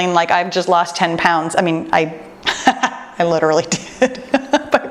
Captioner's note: laughing